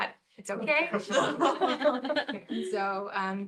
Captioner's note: laughter